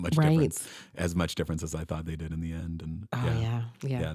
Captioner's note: chuckles